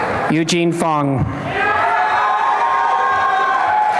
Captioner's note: applause and cheering